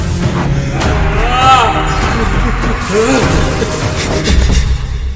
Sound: sobbing

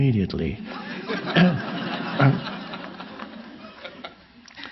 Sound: audience laughing

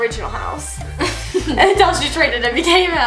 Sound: laughs

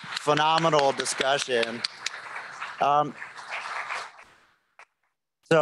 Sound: applause

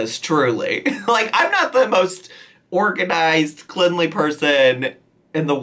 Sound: laughs

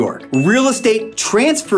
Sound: graphics ding

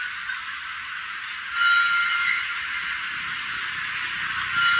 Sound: chime 1; chime 2

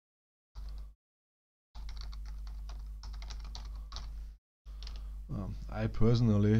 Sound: typing

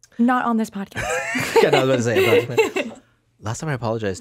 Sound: laughs

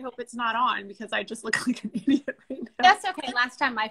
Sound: laughs

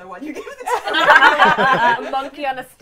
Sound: laughter

